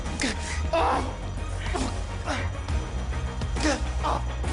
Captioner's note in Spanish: Quejidos